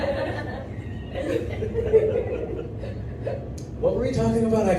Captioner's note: crowd laughs